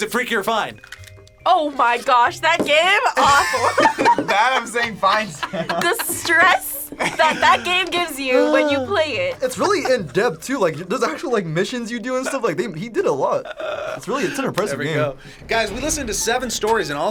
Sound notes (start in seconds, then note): 4.0 laughs; 5.7 laughs